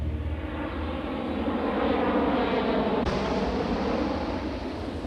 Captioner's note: airplane engine roaring